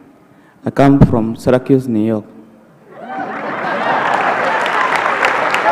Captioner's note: applause